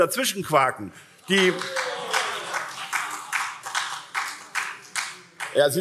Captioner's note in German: Beifall SPD und CDU